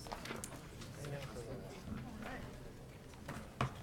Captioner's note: people chattering